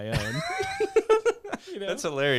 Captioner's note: laughing